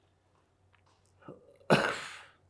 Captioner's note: coughing